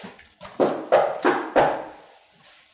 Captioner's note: loud knock